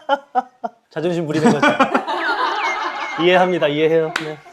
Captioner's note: laughs